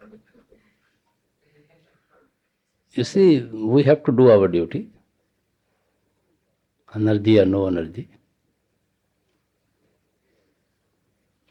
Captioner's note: laughter